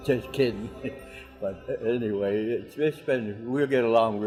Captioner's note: chuckles